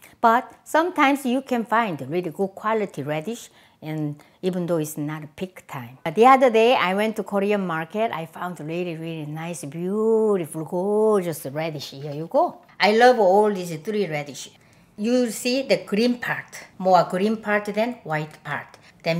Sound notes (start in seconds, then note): none